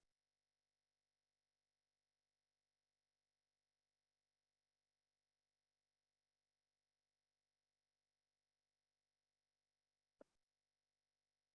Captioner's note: silencio